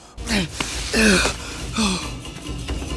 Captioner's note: Wan makes grunting noises as he climbs back up the side of the cliff